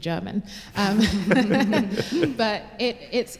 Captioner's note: laughter